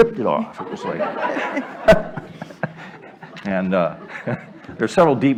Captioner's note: laughter